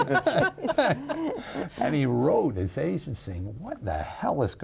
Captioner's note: laughing